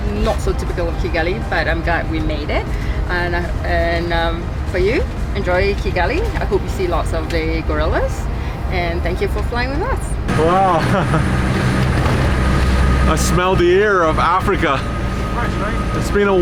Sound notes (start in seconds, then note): 9.9 plane engine roaring; 10.3 chuckles